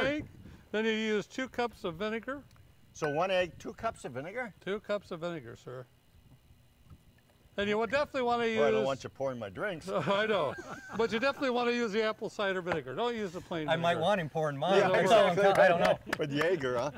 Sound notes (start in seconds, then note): 1.5 glass clinks; 10.0 laughing; 15.4 claps